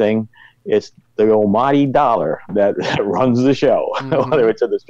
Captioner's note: laughs